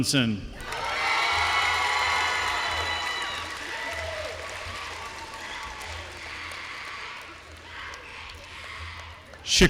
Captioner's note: applause